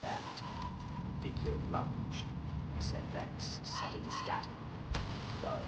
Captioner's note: مؤثرات صوتية - تشويش مفاجئ، صوت ارتطام، همسات مشوهة